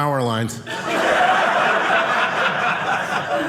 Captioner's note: audience laughing